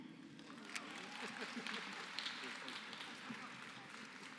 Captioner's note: applause